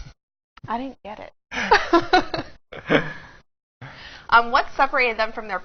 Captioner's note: laughs